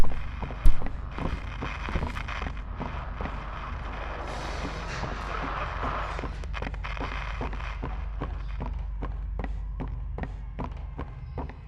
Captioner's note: footsteps